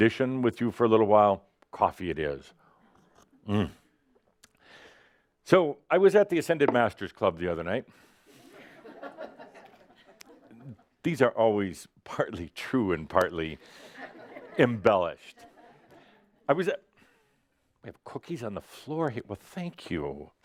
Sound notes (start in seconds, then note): 9.9 a few giggles